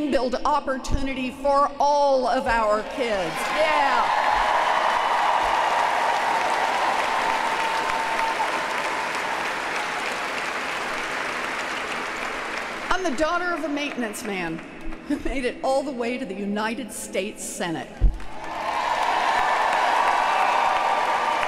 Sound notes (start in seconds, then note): 7.3 applause